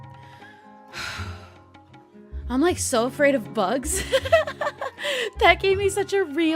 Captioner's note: sighs; laughs